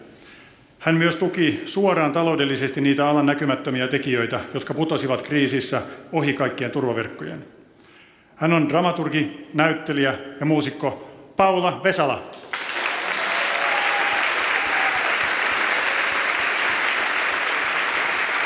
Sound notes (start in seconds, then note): 12.3 applause and cheering